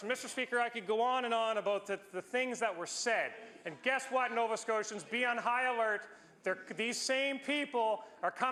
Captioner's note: some Applause